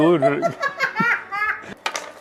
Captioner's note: cackling